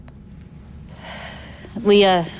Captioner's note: sighs